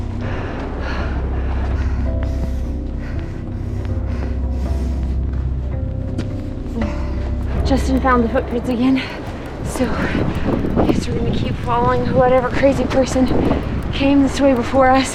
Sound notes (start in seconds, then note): 2.8 heavy breathing